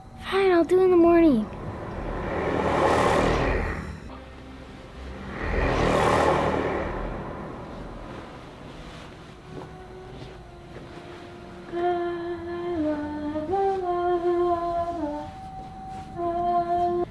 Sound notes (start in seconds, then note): 1.2 scary ghostly sound; 11.8 singing children's lullaby